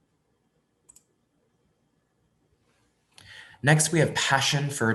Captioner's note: mouse clicks